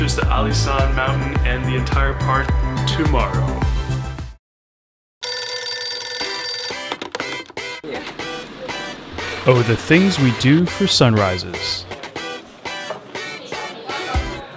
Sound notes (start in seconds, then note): 5.2 alarm clock ringing; 11.8 upbeat music